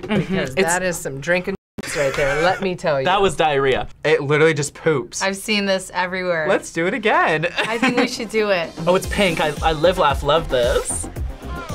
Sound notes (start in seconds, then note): 7.5 laughs